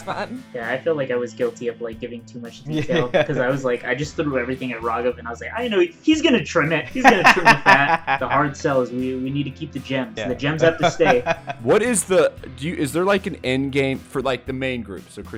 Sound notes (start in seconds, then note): 0.0 laughs; 2.6 laughter; 10.6 laughter